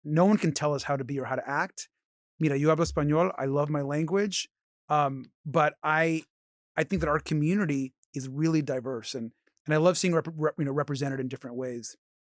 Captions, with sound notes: no one can tell us how to be or how to act. You know, (speaks Spanish) I love my language, but I think that our community is really diverse. And I love seeing, you know, represented in different ways,